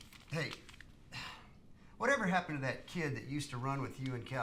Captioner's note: sighs